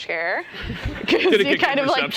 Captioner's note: laughter